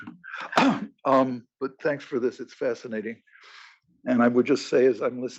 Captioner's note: cough